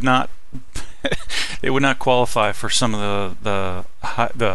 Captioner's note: laughing